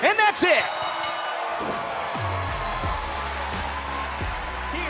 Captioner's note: bell ringing